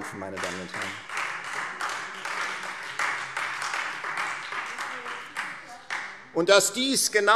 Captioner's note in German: Beifall Freie Demokraten und SPD